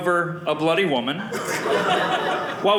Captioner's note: audience laughing